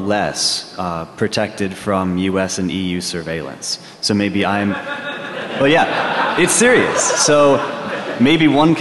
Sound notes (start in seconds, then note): 4.5 laughing